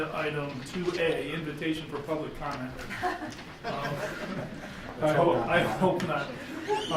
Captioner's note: chuckling